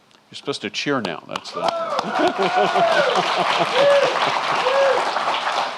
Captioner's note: cheering and applauding